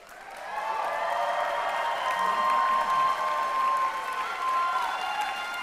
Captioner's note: applause